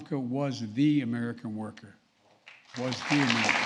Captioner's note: applause